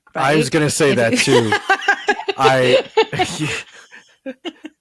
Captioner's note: laughs